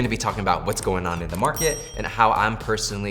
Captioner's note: bell rings